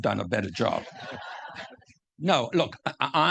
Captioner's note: audience laughing